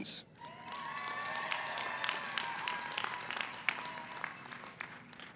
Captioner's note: cheering & applause